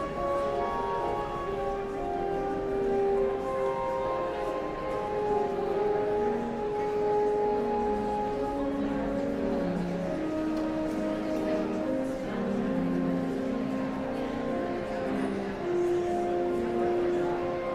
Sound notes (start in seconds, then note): 5.6 somber organ music continues; 10.2 audience chattering continues